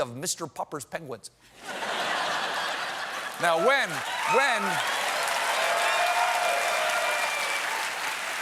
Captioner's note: laughter